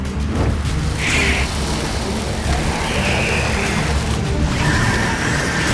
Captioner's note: flames crackle; hiss, shriek